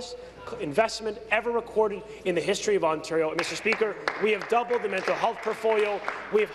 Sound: clapping

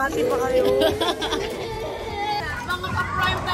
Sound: laughs

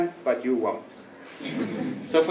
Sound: laugh

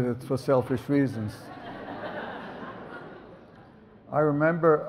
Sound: audience laughs

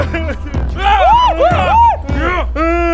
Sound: sobs; scream™

